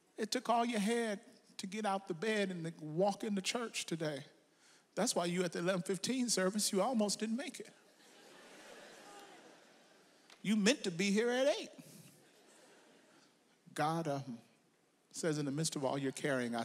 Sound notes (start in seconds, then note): 8.0 audience laughs